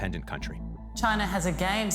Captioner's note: soundbite of archived recording